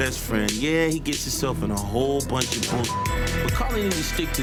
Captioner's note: beep